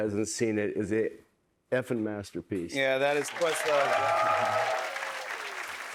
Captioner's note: cheers and applause